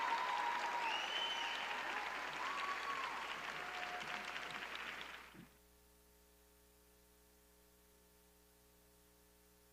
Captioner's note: applause